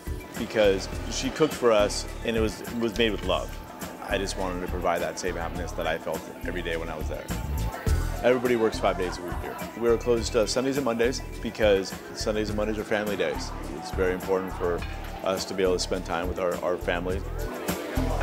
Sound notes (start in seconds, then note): none